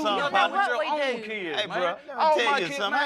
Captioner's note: arguing